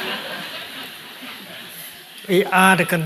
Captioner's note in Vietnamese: tiếng cười